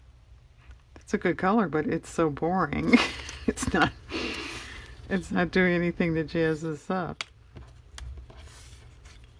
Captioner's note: laughs